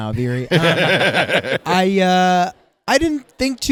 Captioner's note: laughing